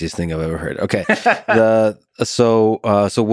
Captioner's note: Tim laughs